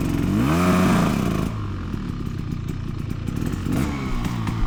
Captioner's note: engine revving